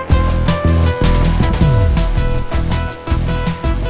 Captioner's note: sound of Electricity